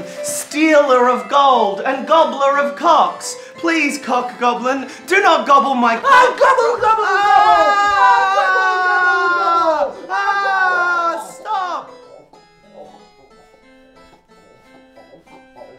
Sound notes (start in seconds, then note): 8.2 screams; 11.2 soft gurgling